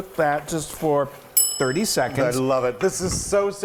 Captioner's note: bell dings